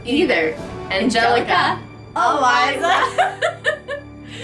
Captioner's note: more laughter